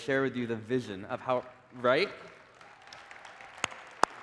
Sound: applause

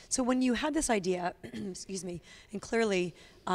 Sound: clears throat

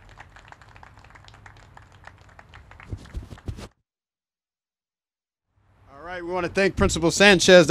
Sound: applause

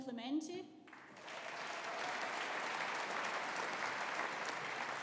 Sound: audience applauding

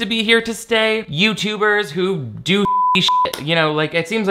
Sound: beep

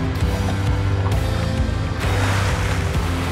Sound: water sloshes

